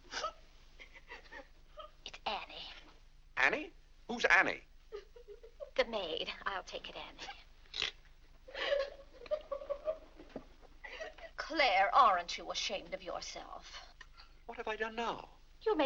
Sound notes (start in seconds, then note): 0.8 Annie weeps; 8.5 Annie crying